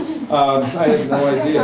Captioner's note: laughter